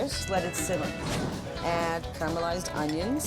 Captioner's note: logo whooshes